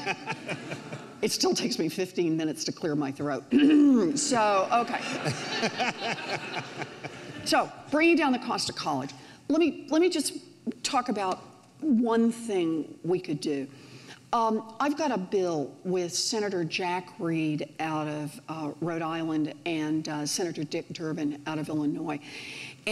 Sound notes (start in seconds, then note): 0.0 audience laughs; 3.5 clears throat